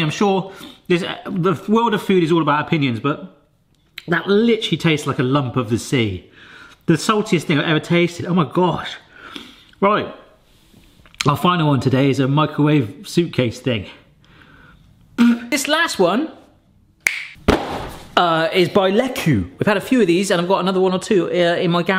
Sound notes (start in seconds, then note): 17.0 snaps